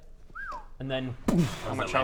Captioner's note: whistle